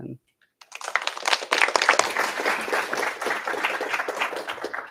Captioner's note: applause